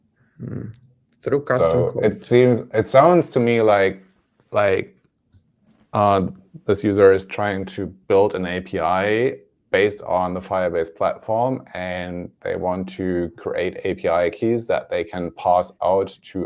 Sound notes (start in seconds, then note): none